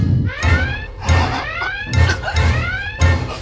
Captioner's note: kirk gasps for air